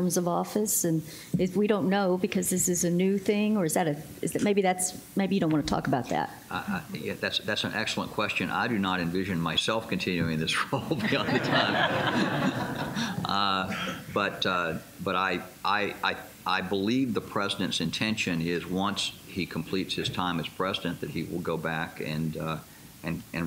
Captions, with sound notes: of office? And we don't know because this is a new thing or is that a, maybe that's, maybe you don't want to talk about that. Yeah, that's, that's an excellent question. I do not envision myself continuing this role any other time. [laughter] Uh, but, but I, I believe the president's intention is once he completes his time as president that he will go back and, uh, and,